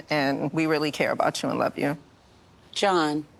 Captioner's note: none